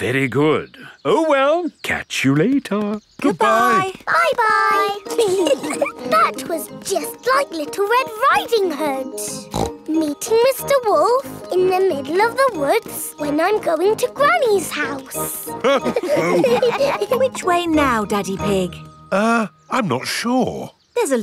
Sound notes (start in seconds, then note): 5.0 giggling; 9.4 snorts; 15.6 all laughing